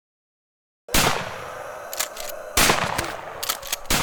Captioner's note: gunshots